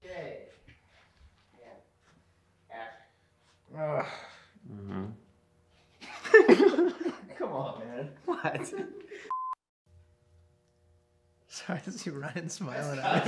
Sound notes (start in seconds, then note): 3.6 groans; 6.0 laughter